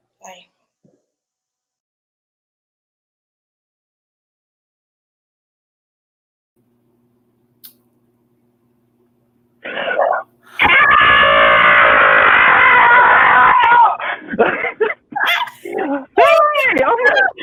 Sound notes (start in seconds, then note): 10.5 both screaming; 14.0 both laughing